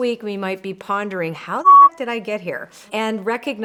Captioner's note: beep